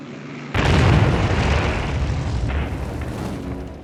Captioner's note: bomb explodes